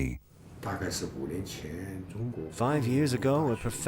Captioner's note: speaking in foreign language